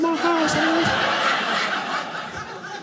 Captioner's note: audience laughing